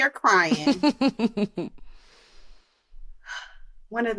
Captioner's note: laughter